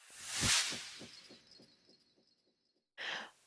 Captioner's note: sound effect